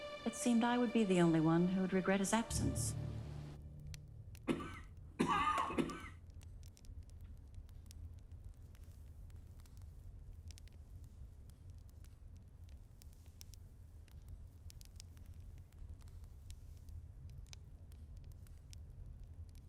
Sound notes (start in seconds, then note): 5.1 coughing; 6.9 fire crackling